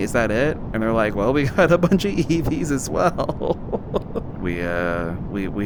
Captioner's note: laughs